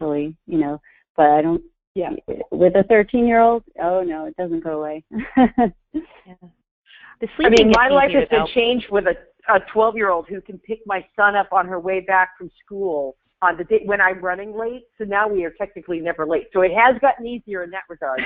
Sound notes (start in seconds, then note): 6.5 voiceover